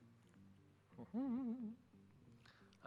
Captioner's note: hums